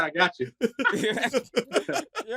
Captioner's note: laughter